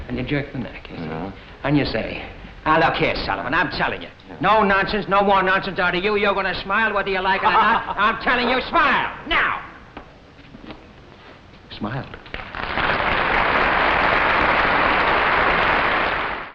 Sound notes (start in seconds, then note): 7.4 Ed laughs; 12.2 audience claps